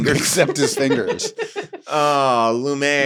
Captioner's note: laughs